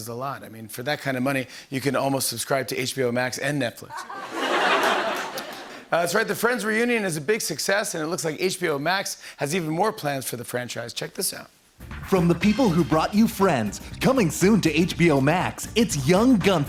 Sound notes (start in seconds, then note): 3.9 laughter